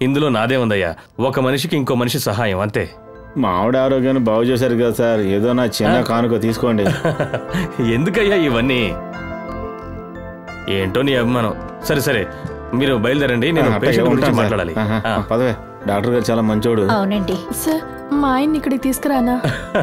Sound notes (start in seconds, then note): 6.8 laughs